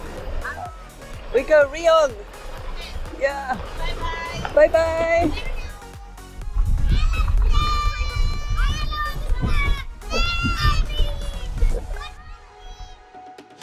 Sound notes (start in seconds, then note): 8.9 children shouting